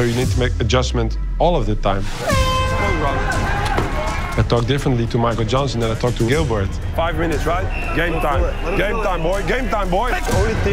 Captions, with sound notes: so you need to make adjustments all of the time. [end of round horn blares] >> Good round. I talk differently to Michael Johnson, then I talk to Gilbert. Five minutes, right? Game time. Game time, boy. Game time, boy!